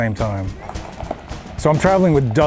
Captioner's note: gravel crunching